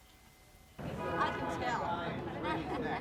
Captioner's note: crowd chatter; laughter